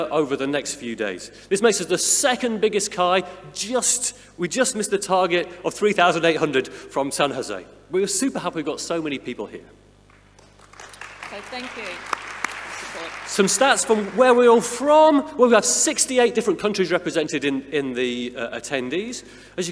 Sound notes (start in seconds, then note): 10.3 audience applauding